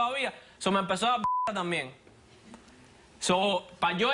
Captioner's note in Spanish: Bip